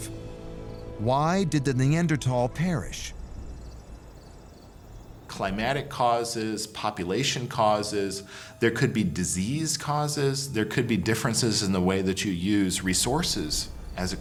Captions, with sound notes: why did the Neanderthal perish? [crickets chirping] Climactic causes, population causes, there could be disease causes, there could be differences in the way that you use resources as a cause.